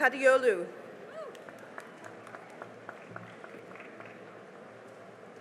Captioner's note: cheering and applause